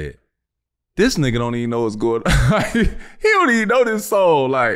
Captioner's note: chuckles